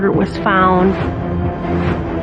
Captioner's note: air who whooshing